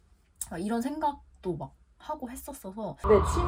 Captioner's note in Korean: 진지하게